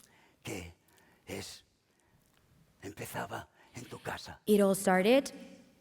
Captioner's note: speaking spanish